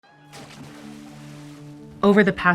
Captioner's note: water Splashing